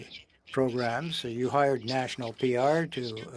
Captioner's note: speaking French